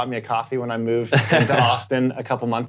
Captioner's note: laughs